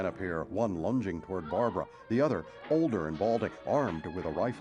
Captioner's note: screams